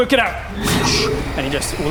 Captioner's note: woosh!